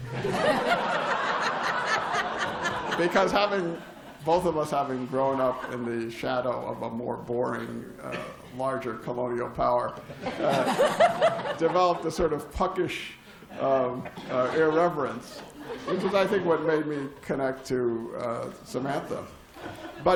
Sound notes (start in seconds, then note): 0.0 laughter; 10.0 laughter